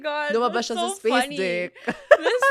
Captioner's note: laughs